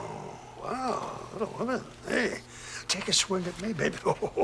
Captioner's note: chuckling